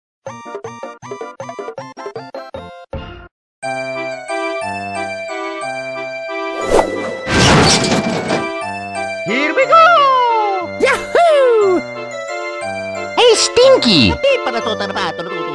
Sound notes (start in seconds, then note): 3.5 carnival Music; 7.0 car crashes